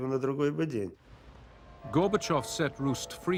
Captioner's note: bells